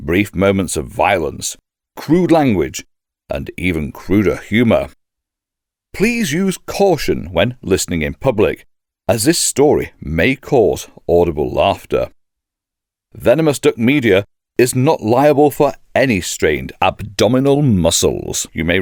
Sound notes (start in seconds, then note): none